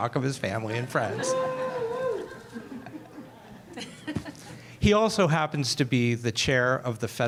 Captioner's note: laughter